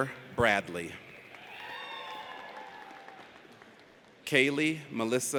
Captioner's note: audience cheers